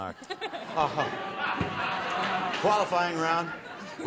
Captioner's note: laughter